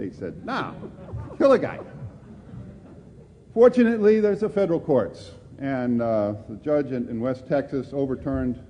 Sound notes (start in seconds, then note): 0.6 laughter